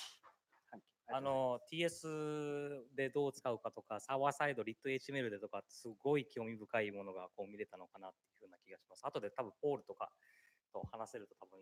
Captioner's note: speaking japanese